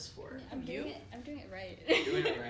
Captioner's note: laughs